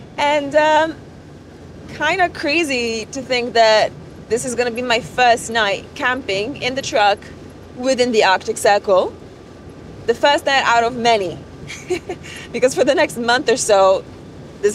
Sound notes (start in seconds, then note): 11.6 laughs